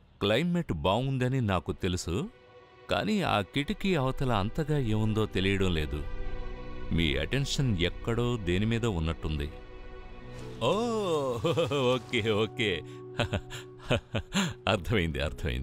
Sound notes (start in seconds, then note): 13.1 chuckles